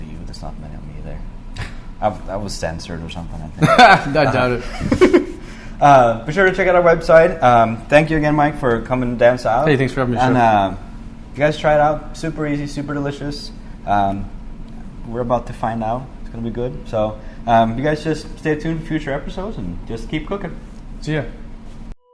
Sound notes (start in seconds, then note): 3.6 laugh